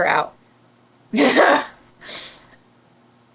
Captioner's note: laughs